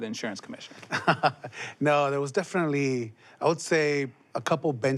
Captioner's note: laughs